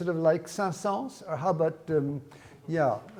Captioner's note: speaks in foreign language